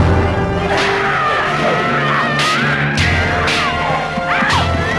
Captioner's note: spear thudding; woman screaming; blades clashing; child yelling; horse neighing; woman shouting